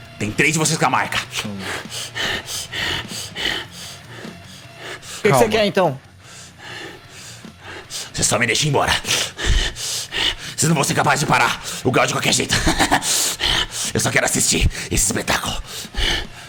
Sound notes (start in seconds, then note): 1.0 panting; 10.0 panting; 13.6 laugh